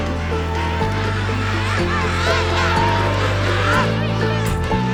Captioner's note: penguins squawking